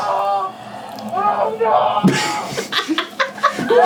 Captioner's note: police screaming; team laughing